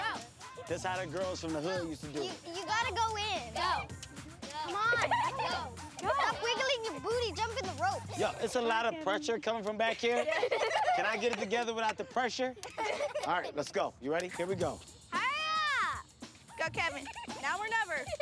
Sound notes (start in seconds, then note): 12.5 girls laugh